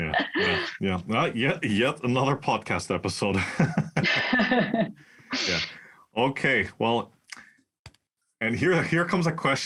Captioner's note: laugh